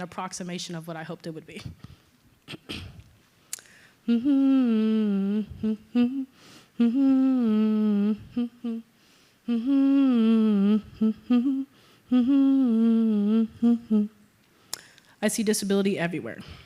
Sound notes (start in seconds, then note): 2.4 cough; 4.1 sobbing